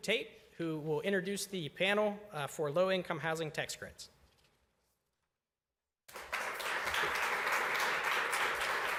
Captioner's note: applause